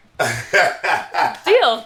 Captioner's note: laughing